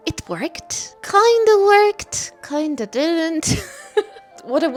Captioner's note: laughs